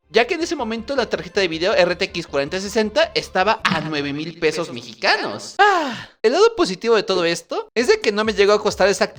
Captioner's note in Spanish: Suspiro